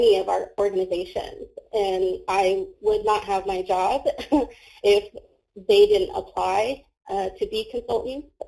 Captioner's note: laughs